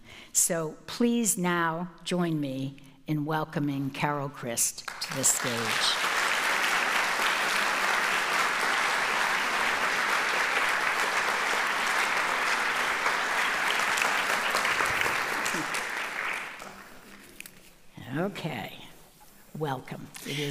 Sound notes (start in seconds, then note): 5.4 audience applauding